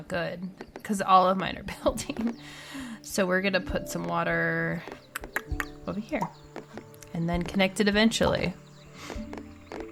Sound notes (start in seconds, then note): 4.8 mouth clicks